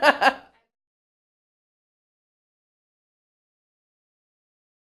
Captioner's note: laughter